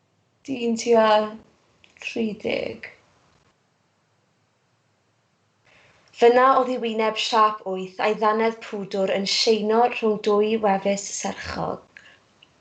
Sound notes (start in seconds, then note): none